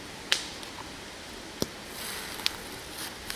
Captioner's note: fire crackles